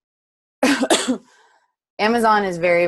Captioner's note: coughs